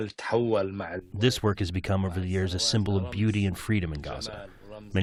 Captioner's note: through translator